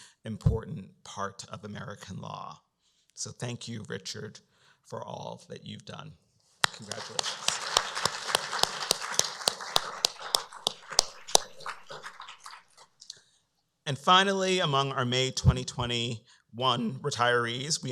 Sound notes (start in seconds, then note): 6.6 applause